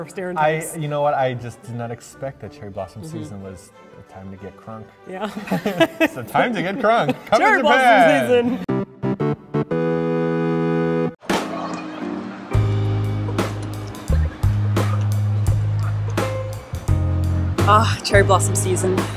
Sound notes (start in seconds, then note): 5.2 cute giggles